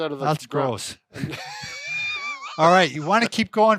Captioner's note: chuckling